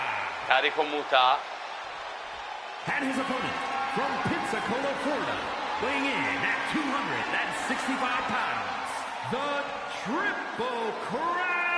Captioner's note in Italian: urlo